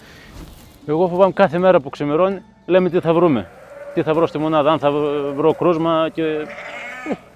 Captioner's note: speaking in foreign language